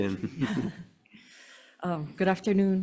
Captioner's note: board laughs